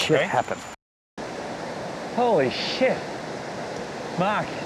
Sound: sound of raging waterfall

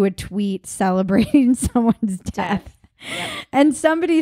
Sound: laughing

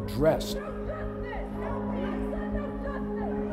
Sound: crowd

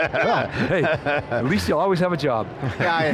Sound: laughing

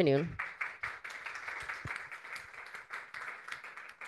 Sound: people clapping

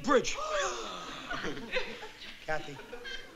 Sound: gasping

